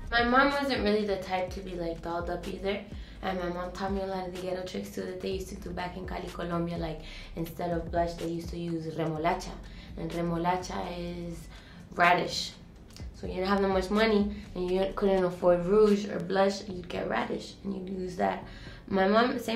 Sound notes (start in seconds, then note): 9.0 foreign language